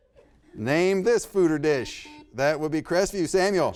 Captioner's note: buzzer beeps